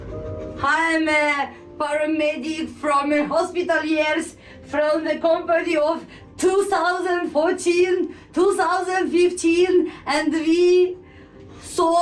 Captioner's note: speaking about herself in English